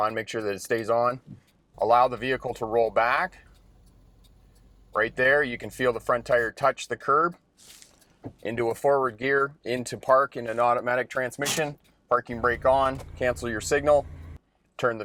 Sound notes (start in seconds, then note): 12.3 parking brake creaking